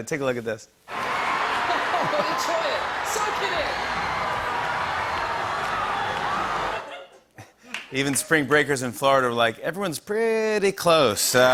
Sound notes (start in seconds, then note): 0.9 cheering